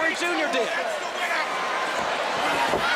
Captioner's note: crowd chatter